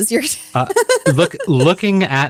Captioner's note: laughs